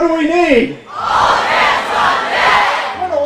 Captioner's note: yells